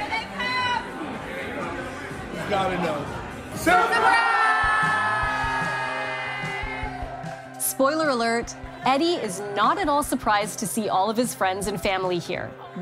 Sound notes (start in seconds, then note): 3.6 crowd yells surprise